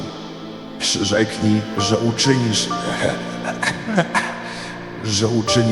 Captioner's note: coughing